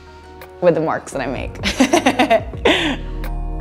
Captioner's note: laughs